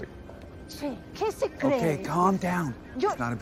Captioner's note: speaks Spanish angrily